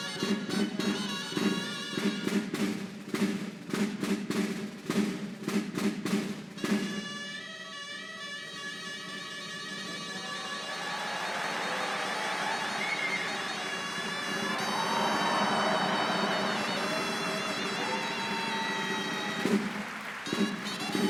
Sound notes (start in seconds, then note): 14.0 applause; 17.5 band playing